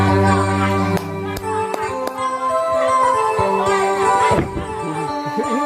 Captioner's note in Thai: ปรบมือ